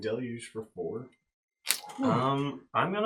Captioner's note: all laugh